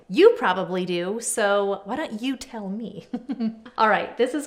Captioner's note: laughs